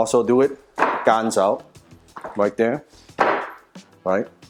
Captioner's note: Strikes Wing Chun dummy